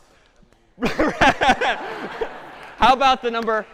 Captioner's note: laughter